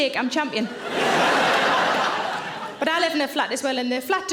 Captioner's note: audience laughing